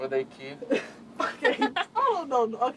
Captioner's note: girl laughs